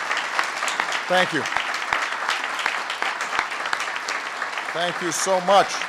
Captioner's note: applause